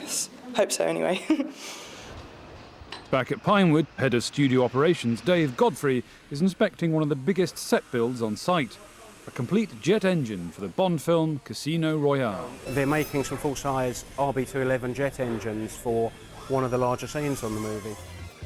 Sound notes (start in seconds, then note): 1.1 laughs